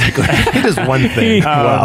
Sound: fathers laughing

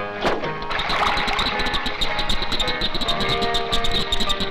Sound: animal sounds

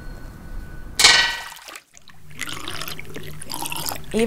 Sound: blade dropping and stirring barbicide

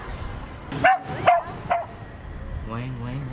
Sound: dog barking

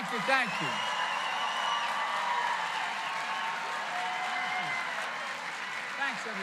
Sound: applause

